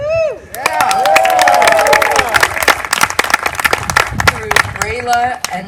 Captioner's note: applause